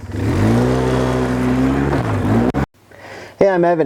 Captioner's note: engine revving